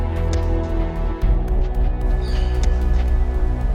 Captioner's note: blows landing